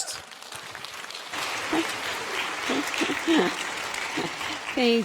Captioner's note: audience applauding